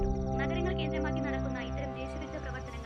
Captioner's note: TV news